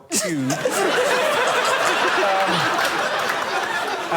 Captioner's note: laughter